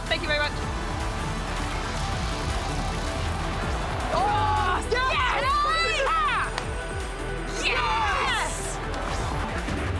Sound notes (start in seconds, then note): 4.0 cheering; 7.5 more cheering